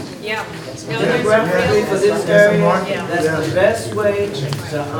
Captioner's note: group uproar drowns out speakers